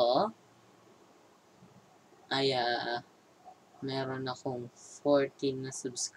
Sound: its silent time

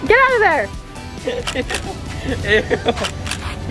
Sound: camera clicks

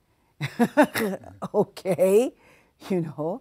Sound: laughing

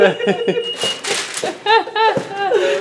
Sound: papers rustling; laughter

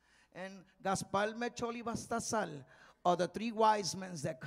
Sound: speaking in Spanish

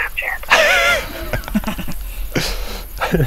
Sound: laughing

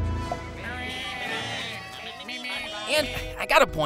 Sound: chattering

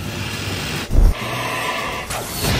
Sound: roars

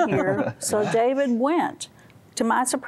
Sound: laughter

